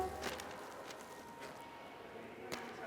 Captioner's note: styrofoam sheet rustles